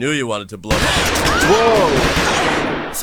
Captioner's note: gunshots